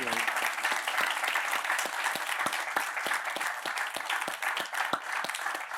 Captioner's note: applause